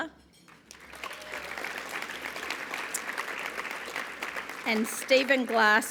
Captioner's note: applause